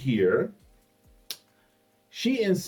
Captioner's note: clicks mouth